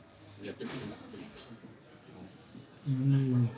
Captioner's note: people chattering